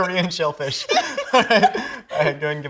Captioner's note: both laughing